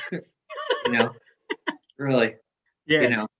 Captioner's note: laughs